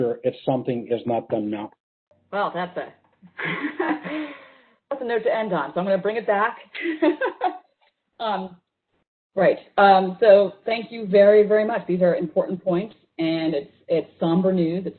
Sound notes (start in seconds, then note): 3.3 laughs; 6.9 laughs